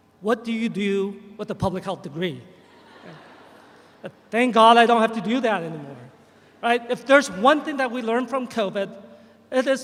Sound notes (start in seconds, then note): 2.6 audience chuckles